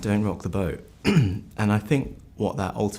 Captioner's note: clears throat